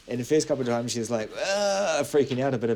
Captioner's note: makes distressed noise